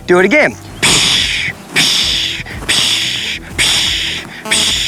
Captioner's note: loud shushing